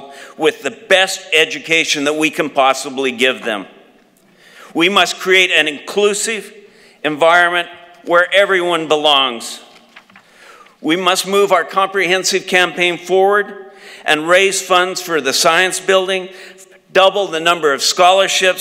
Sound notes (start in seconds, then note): none